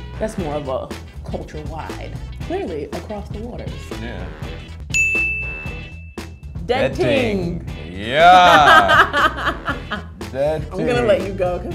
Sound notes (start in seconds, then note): 4.9 dings; 8.2 laughs